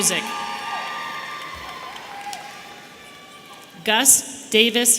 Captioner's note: audience cheering